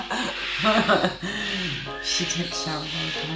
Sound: laughs

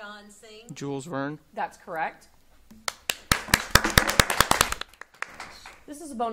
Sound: audience applauding

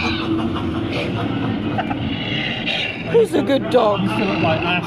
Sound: laughs

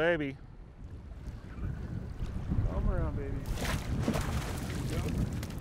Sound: fish splashing

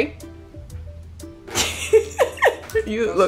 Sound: laughing

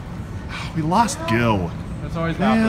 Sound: sighs

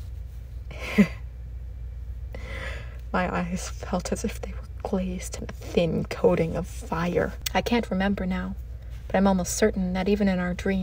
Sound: a humourless chuckle

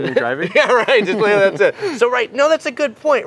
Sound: laughs

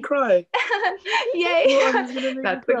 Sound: laughs

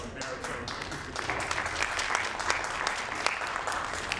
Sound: audience applauding

